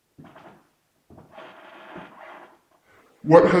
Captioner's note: floor creaking